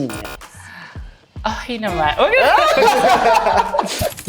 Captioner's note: laughs